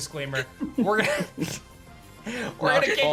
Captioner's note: chuckles